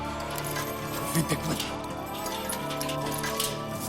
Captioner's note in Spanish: Sonido al abrir la reja; Sonido al abrir la puerta